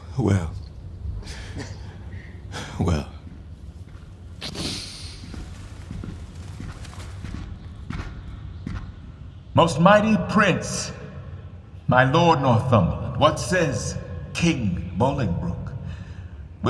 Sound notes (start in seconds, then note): 5.3 approaching footsteps